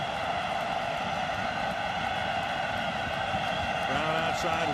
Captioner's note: cheering